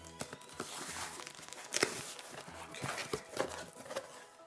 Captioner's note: box opening